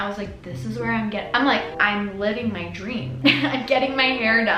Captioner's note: giggles